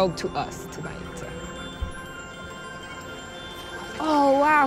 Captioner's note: chimes